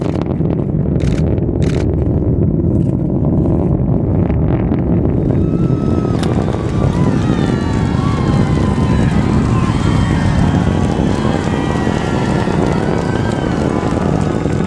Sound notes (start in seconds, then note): 5.4 cheers